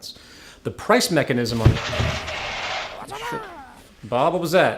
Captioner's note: crash